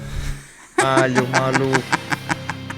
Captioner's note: laugh